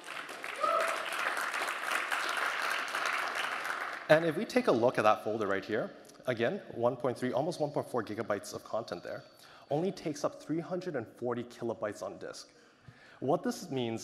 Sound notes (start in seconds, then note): 2.5 applause